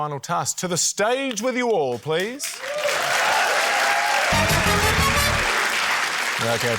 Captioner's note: cheering, applause